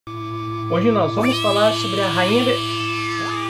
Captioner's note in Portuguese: som de gatos miando ao fundo